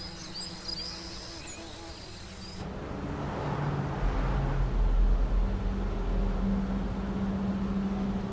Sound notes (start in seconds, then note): 2.6 truck passing; 6.1 soft music